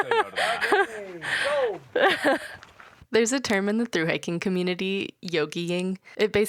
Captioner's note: laughing